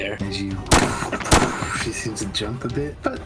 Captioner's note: tshh